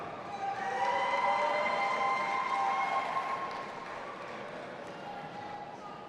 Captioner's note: audience applauding and cheering